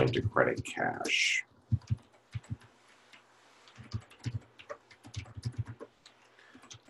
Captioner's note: typing Sounds